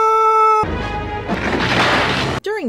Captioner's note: triumphant music; crash!